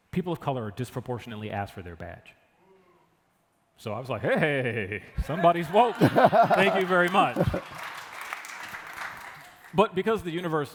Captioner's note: applause